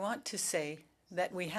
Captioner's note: speaking french